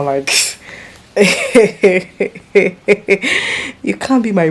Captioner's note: laughs